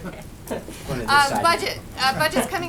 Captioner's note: laughter